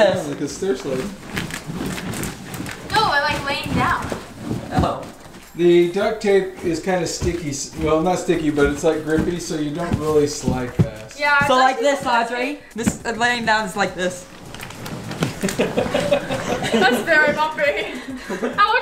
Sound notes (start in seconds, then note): 15.4 laughing